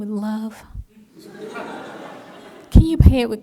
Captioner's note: laughter